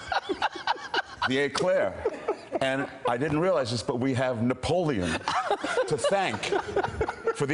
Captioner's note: laughter